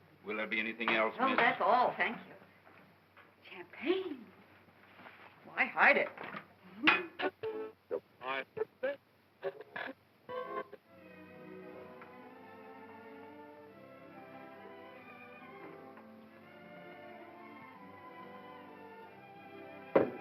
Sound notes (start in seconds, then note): 7.3 radio tuning between stations; 10.4 ballroom music